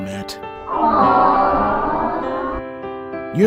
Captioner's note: crowd awes